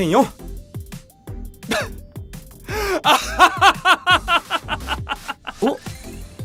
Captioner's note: laughs